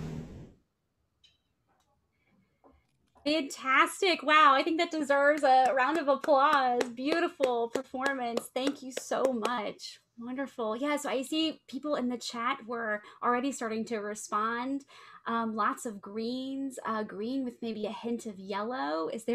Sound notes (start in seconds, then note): 5.2 clapping hands